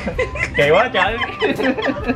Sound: laught

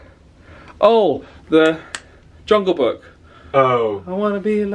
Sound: snaps fingers

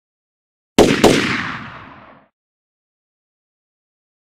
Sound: gunshots

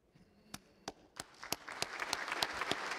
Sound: applause

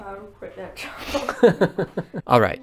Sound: chuckles

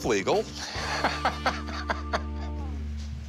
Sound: chuckles

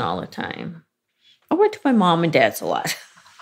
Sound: laughs

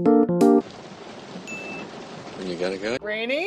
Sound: ding

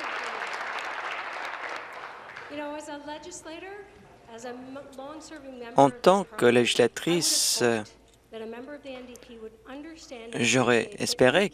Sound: some Applause

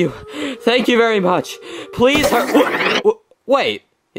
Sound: tape fast-forwards

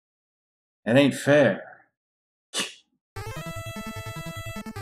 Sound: scoffs

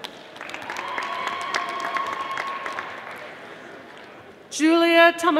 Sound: audience applauding

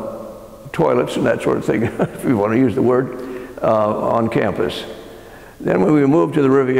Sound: laugh

